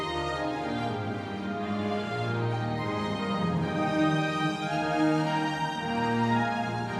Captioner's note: none